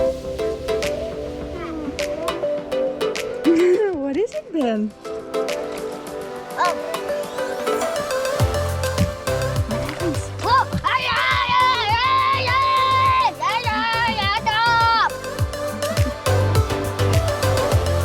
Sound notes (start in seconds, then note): 0.2 upbeat music; 5.4 upbeat music; 10.4 screams happily; 15.3 upbeat music